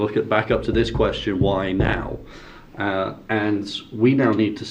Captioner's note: board booming